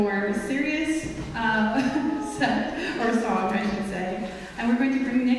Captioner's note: chuckles